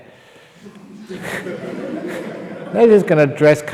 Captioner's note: laughter